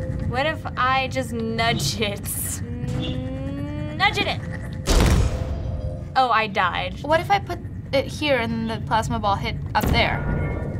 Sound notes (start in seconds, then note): 4.9 sudden crash